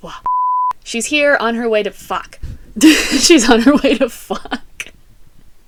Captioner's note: laughter